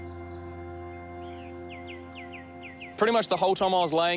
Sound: birds chirp

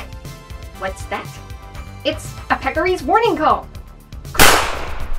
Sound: crack!

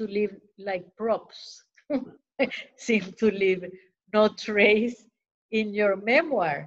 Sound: laughter

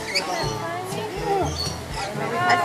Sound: gasps

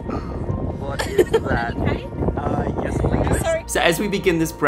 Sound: crowd talking

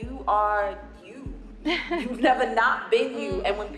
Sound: chuckles

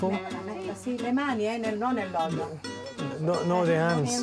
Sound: speaking Italian

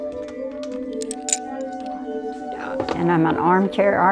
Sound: clinking

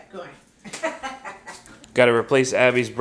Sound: laughing

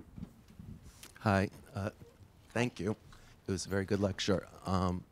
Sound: voiceover

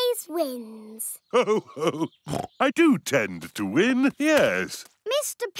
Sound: chuckles

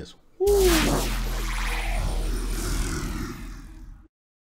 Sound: blue fiery image whooshes

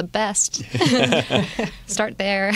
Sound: laughter

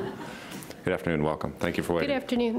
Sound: laughing

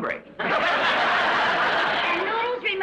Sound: audience laughs

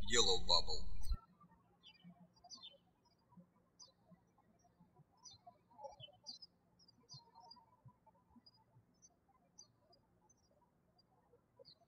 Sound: birds chirping

